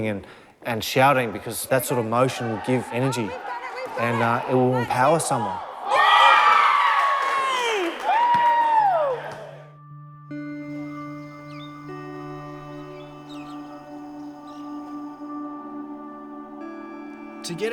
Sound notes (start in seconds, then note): 7.2 whistle blows; 8.6 shouting and cheering